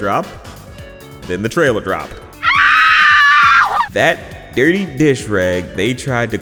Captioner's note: Horrendous women scream with a picture of ugly movie sonic